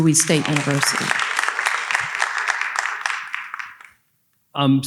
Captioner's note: audience applauding